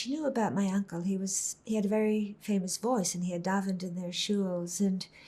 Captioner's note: hebrew